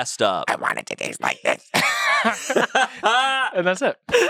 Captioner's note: laughs